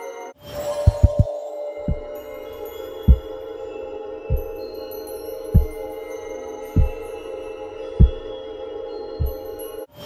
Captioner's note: footsteps